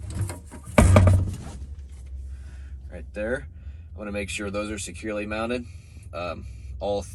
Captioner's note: door closing